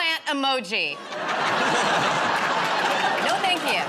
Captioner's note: laughter